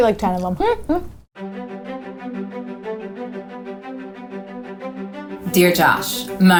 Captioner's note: upbeat music; giggles